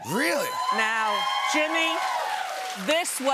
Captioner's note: cheers and applause